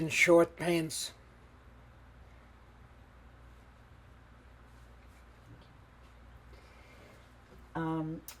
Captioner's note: pauses 6 seconds